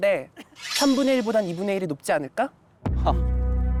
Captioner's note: sound effect: counterattack